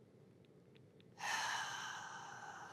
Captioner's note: sigh